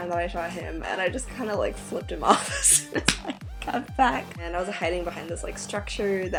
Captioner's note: laughing